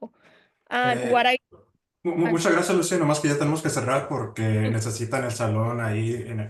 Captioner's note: speaking Spanish